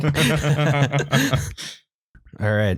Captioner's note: laughter